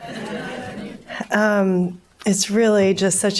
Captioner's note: audience murmurs collectively